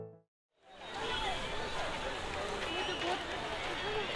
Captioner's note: crowd noise